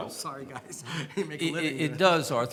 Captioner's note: laughs